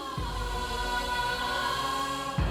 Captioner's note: poignant vocalisation